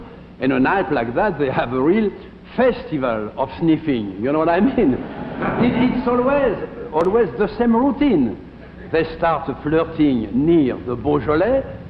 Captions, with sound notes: and a night like that, they have a real festival of sniffing, you know what I mean? (audience chuckles) It always, always the same routine. They start flirting near the Beaujolais,